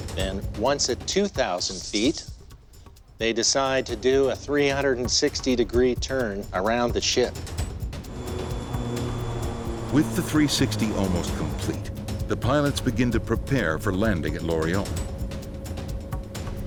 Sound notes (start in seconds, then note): 10.0 voiceover